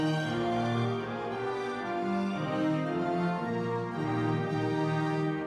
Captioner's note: audience members cheering